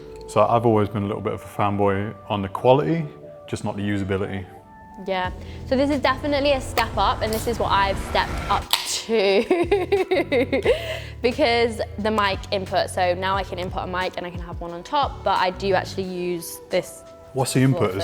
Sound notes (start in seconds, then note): 8.1 whirring noise; 9.0 laughing